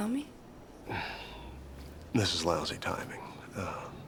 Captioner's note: sighs